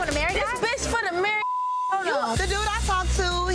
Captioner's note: beep